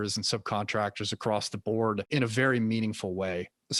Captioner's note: none